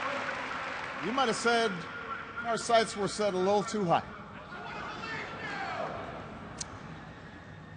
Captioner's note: cheers and applause